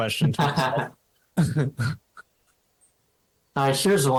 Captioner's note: chuckling